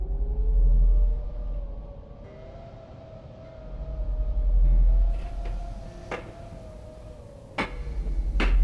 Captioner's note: howling wind; footsteps; heavy breathing